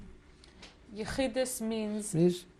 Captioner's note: non-english